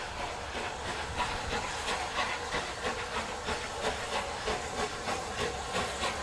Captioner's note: train passes